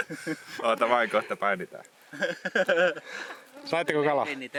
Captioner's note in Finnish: naurua